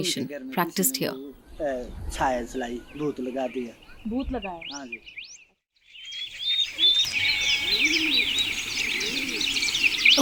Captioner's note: moves into birds chirping